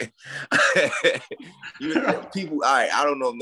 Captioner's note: laughing